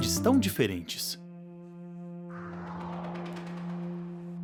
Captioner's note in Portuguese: som de vento